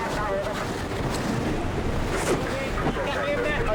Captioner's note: wind whooshing